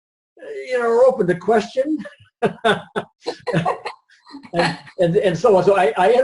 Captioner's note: laughs